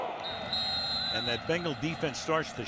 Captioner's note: whistle blowing